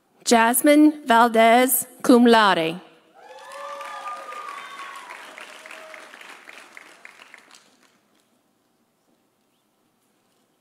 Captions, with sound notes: Jasmine Valdez, cum laude. (audience cheering) (audience applauding)